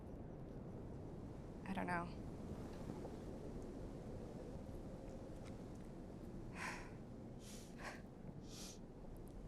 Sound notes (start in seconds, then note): 6.5 exhaling